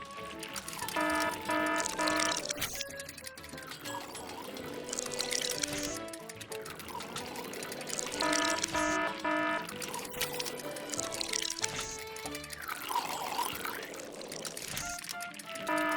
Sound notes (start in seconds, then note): 0.8 siren ringing; 2.7 glass breaking; 4.1 upbeat music; 8.1 siren ringing; 10.1 glass breaking; 11.5 upbeat music